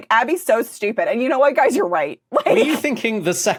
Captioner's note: chuckles